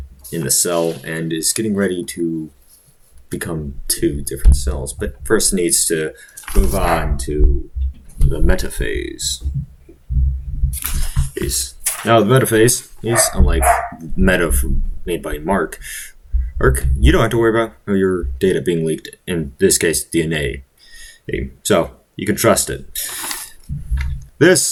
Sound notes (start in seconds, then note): 13.0 bark, bark